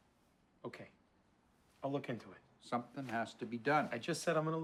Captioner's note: none